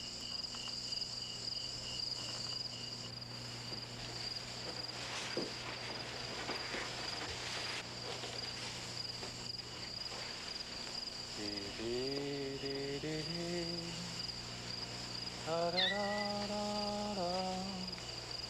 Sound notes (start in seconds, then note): 13.6 gentle humming